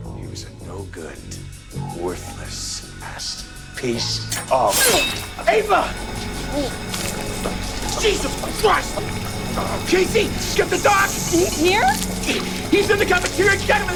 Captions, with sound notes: He was a no good, worthless ass piece of... (scalpel scrapes) - Ava! (blood splutters) Jesus Christ! Casey, get the doc! - He's here? - He's in the cafeteria! Get him!